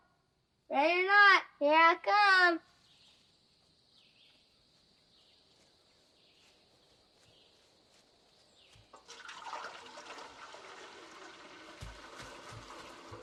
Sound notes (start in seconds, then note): 8.9 water pouring